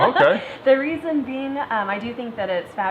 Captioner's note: laughing